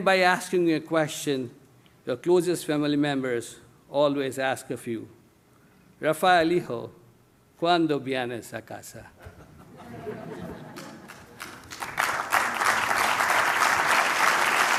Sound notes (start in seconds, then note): 6.0 speaking spanish; 10.7 applause